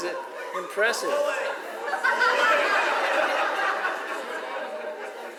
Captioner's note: audience laughs